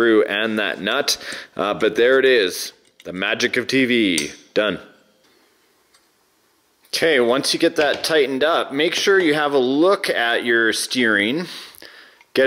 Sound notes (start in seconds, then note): 4.1 metal snapping